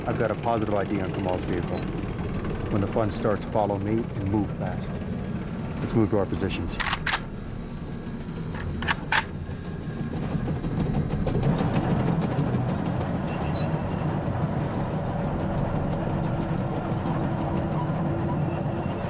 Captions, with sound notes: - I've got a positive ID on Kamal's vehicle. When the fun starts follow me and move fast. Let's move to our positions. (guns clicking) (suspenseful music)